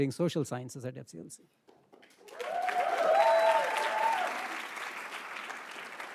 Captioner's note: attendees applauding